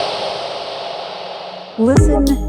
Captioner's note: air whooshing